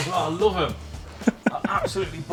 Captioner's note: laughs